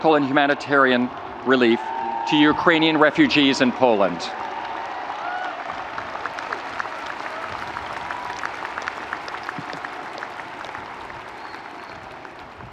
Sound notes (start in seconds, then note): 4.3 audience cheering